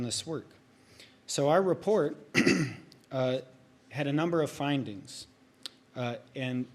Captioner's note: clears throat